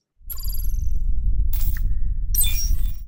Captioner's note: digital beeping